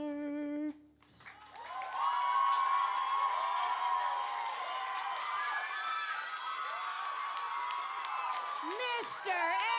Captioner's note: applause